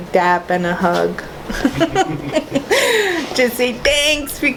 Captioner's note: laughs